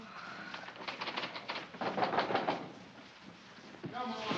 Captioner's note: knocking on door